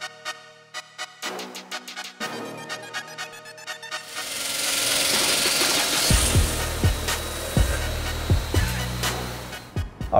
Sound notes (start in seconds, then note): 3.9 saw grinding; 6.1 upbeat music